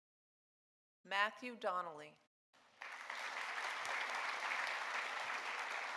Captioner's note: audience applauding